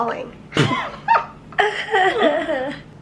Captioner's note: laughter